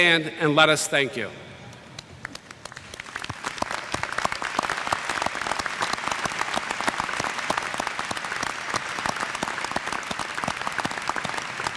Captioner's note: applause